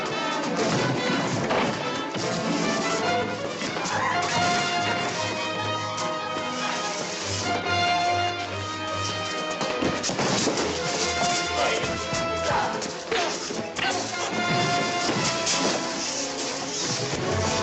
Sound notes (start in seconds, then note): 12.7 grunting